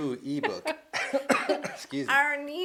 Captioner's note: coughs